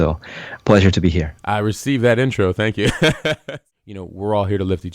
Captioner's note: laughs